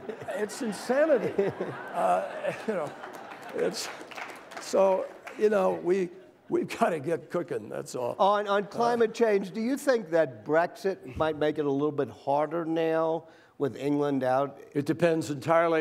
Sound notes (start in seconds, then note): 0.0 laughter; 2.8 applause